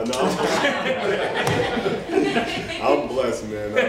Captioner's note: laughter